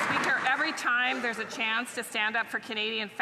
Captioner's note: some Applause